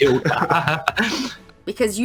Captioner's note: laughs